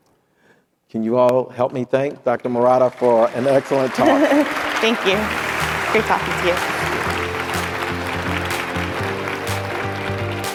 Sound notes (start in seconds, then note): 4.0 audience applauding; 7.2 upbeat music